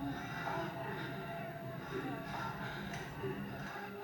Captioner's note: people moaning